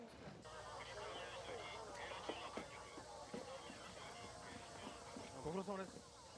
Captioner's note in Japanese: 無線の音声